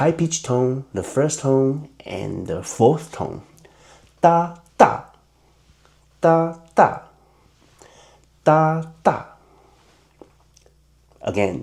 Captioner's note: in Mandarin